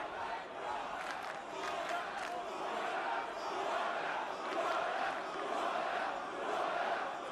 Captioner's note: fans chanting